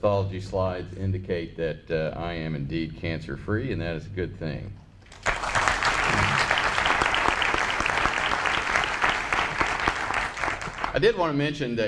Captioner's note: applause